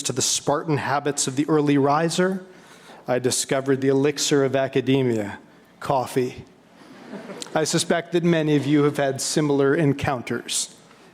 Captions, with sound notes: to the spartan habits of the early riser, I discovered the elixir of academia, coffee. (audience laughing) I suspect that many of you have had similar encounters.